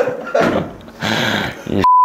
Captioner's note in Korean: 들숨